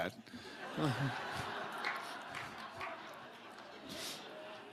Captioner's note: audience laughing